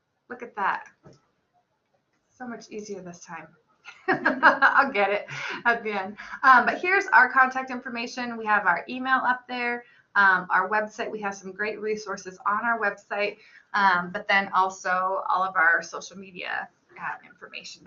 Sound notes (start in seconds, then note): 3.9 laughs